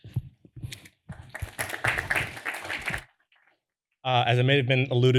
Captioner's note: applause